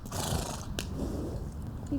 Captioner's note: horse chuffing